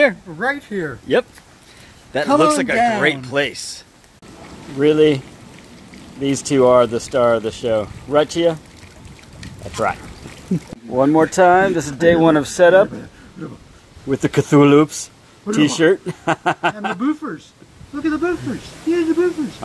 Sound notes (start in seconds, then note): 15.9 laughter